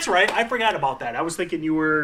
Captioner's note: claps hands